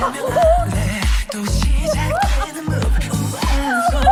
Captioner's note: waves